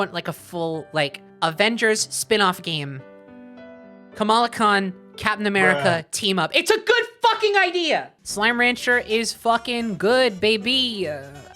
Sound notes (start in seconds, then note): 5.6 man's voice saying "bruh"; 5.6 yelling